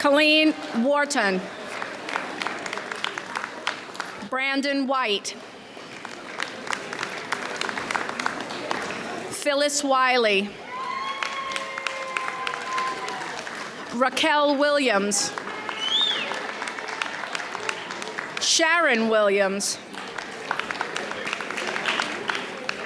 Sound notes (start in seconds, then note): 0.0 audience applauds; 1.4 audience applauds; 5.4 audience applauds; 10.6 audience cheers; 16.2 audience cheers; 20.4 audience applauds